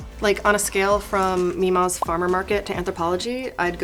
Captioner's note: image popping